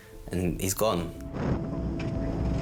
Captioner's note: boat droning; intense music